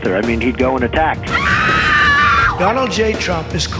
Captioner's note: woman screaming